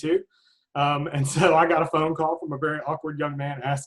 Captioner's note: chuckles